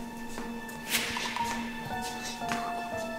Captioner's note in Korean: 샥, 공포스러운 효과음